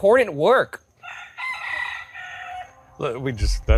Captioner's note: rooster crows